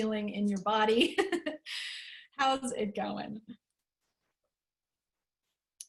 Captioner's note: laughter